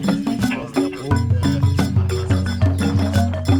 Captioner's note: radio sound